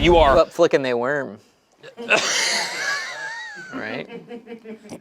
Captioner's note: group laughs